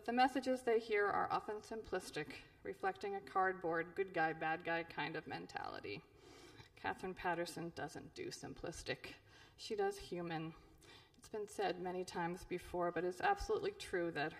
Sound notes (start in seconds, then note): none